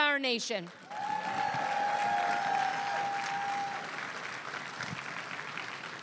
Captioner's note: crowd cheering and applauding